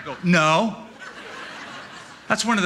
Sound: laughter

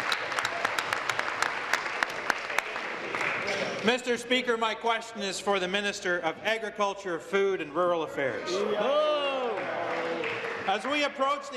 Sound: applause

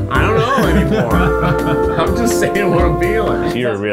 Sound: laughing

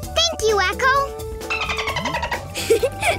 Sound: dolphin sounds

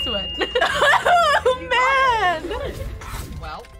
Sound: laughs

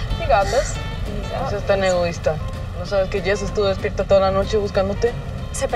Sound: Lupe and Esti speaks in Spanish

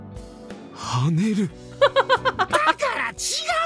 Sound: chuckles

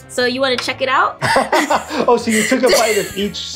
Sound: laughs

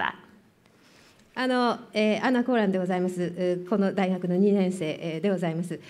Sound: speaking japanese

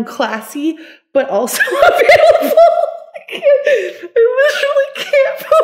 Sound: laughs

